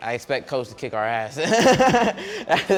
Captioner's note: laughing